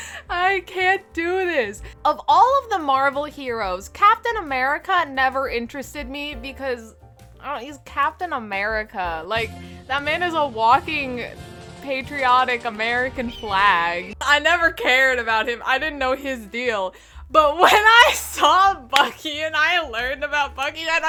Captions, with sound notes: I can't do this! Of all of the Marvel heroes! Captain America never interested me, because... I dunno, he's Captain AMERICA, like That man is a walking... Patriotic American flag... I never cared about him. I didn't know his deal. But when I saw Bucky! *claps* And I learned about Bucky *claps*